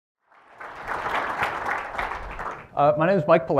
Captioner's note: applause